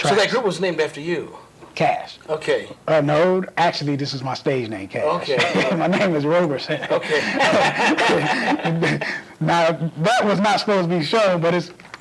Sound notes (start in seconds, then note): 6.6 laughter